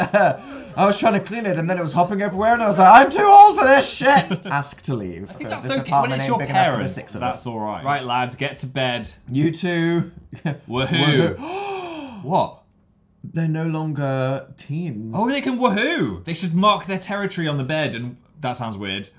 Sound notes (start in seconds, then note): 11.3 gasps